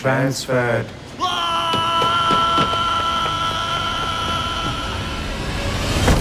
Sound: yelling

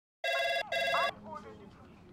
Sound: phone ringing

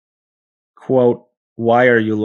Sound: people talking in video clip

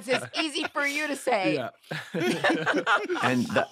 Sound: laughter

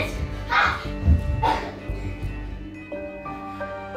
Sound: yells

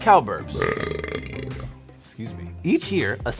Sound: burp erupts

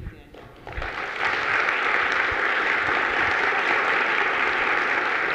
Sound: audience applauding

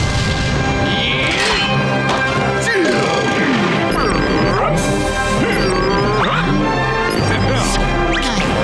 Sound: grunting

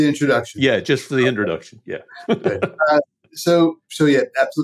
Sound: laughs

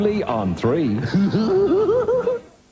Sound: laughter

